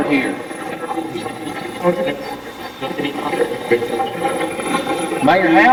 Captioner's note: Steve's Box chatters